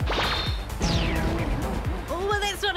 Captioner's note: zapping sounds